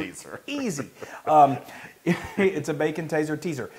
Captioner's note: laugh